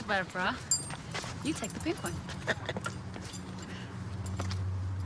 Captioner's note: Harold chuckles